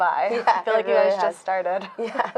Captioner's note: laughing